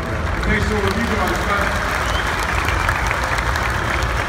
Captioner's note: everybody claps